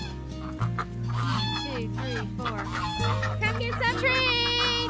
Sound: geese calling

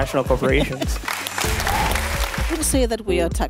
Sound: audience applauding

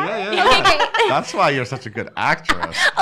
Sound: laughing

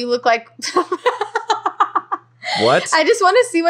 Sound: laughing

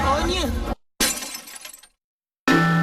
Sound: glass shatters

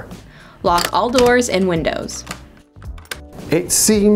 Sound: doors locking

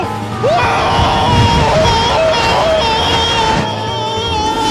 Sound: screaming

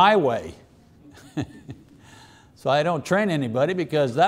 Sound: chuckling

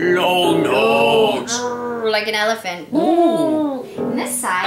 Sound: roars; trumpets

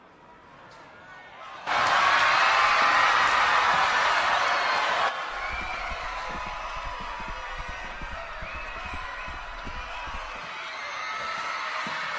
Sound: cheering crowd

